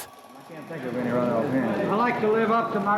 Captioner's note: crowd faintly talking